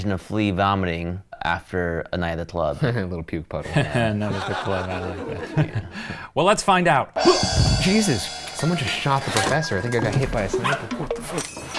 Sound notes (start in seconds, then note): 3.6 chuckles; 7.2 cymbals crash